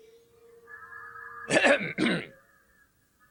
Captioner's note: Gatekeeper clears his throat